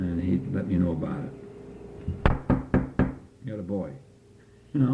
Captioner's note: knocks on something